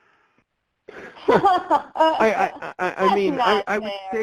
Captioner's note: laughs